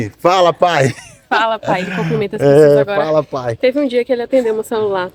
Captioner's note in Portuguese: risadas